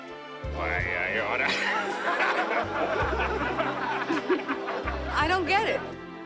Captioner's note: laughing